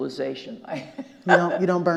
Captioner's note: laughing